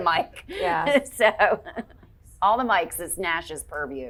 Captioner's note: chuckling